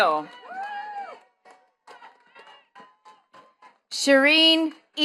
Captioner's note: attendees clapping